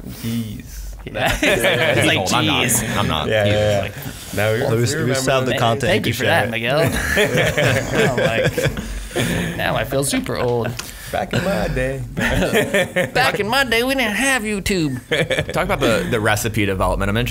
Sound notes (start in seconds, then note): 6.8 laughing